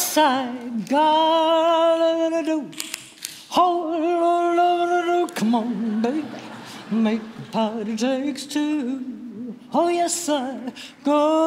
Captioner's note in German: sehr gute Elvis Presley Imitation